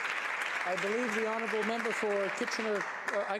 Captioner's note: some Applause